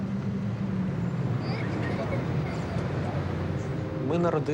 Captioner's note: children giggling